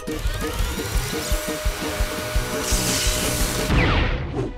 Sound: whirring; hair dryers crackle

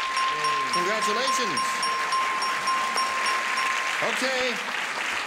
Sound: dinging

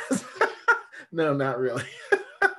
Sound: laughs

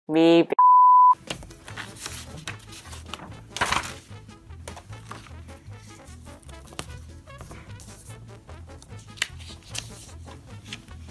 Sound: paper rustling

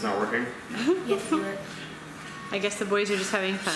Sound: laughter

